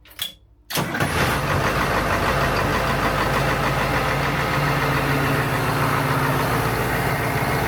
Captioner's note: engine noise